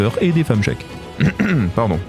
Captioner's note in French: raclement de gorge